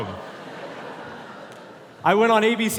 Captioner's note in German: Publikum lacht